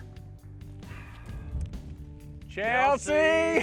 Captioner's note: sighs